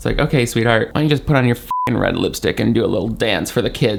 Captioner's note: beep